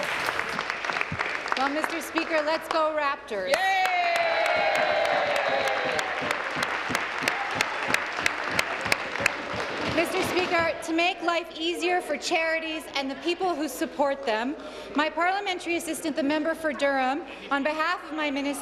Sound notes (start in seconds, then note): 0.0 applause; 9.0 applause; 9.8 cheers